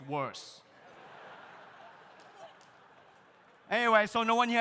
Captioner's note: audience laughs